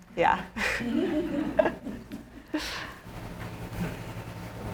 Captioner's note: audience laughing